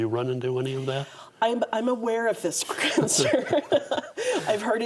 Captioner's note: both laugh